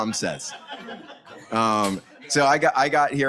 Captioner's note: audience laughs